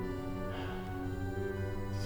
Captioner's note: sighing